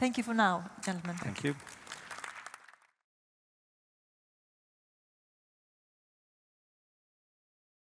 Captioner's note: applause